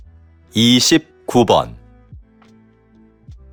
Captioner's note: Korean audio